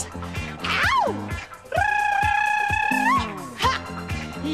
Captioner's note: rolls tongue